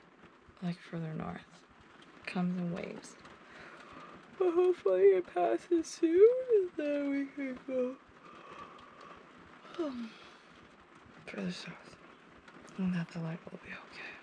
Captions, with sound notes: Like further north. It comes in waves. But hopefully, it passes soon, and then we can go [YAWN] further south. And that the light will be okay.